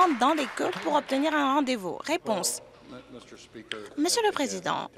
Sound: applause

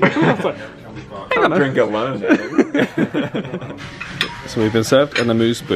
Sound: they laugh

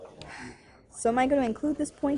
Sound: sighs

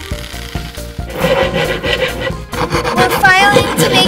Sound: loud scraping

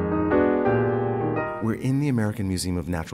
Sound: elegant piano music; voiceover

